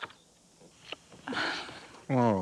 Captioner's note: sighs